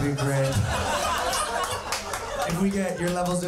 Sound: audience laughing

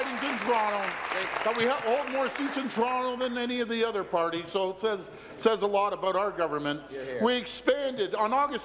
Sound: applause

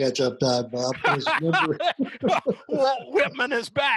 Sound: both laugh

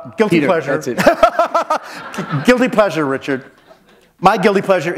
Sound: laughter

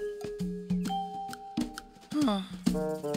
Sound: sighing

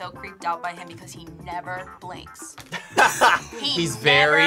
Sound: Chris laughs

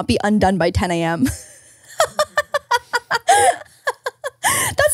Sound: laughs

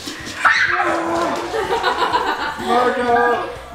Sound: screaming and laughing

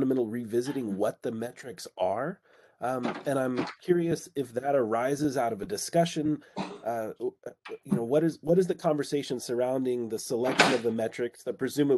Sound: door Opens; coughing; door opens

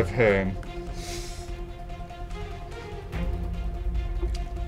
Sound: snorts

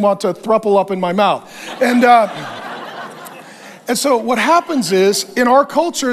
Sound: congregation laughs

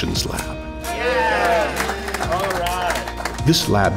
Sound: applaus

